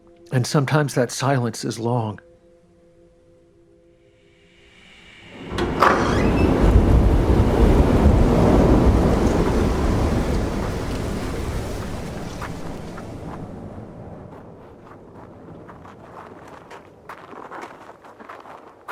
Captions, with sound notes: And sometimes that silence is long. (whoosh) (door opening) (strong wind blowing) (winds subsiding) (footsteps in the snow)